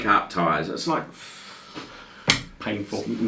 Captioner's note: releasing breathe